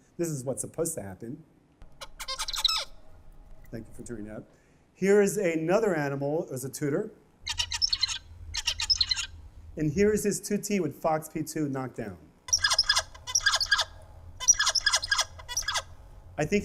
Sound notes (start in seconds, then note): 2.0 chirping; 7.4 chirping; 12.4 chirping